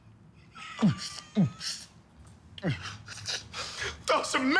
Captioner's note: sobbing; holding back laughter